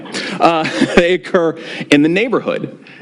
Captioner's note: laughs